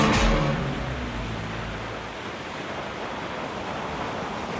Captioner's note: water rushes